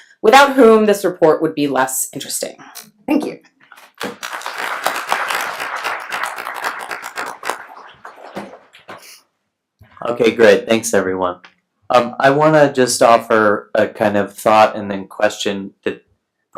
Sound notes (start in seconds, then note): 3.8 applauding